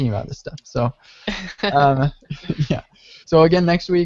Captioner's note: laughs